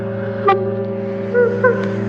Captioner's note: sobbing